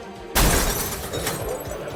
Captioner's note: slap; crash; crowd murmuring